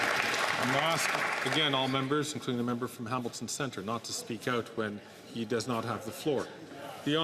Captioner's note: some Applause